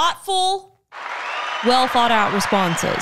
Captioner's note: crowd cheering